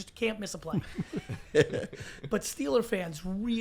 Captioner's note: laughs